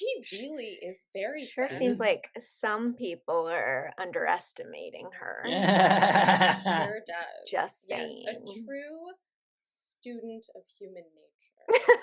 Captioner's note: laughter